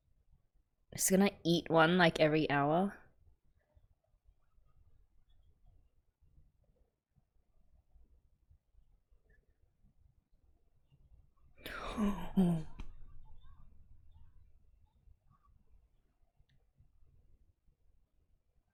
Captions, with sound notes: Is i gonna eat one like every hour? [gasps] Oh!